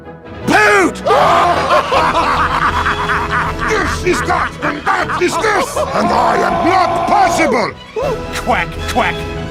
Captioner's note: Demoman and Heavy laughs